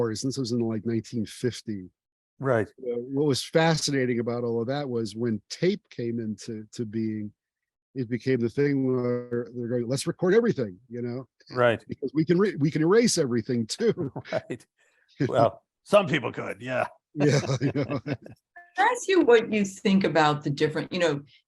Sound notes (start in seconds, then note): 13.9 laughing; 17.2 laugh